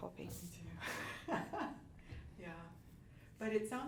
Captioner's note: laughs